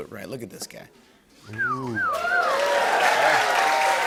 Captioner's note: cheers and applause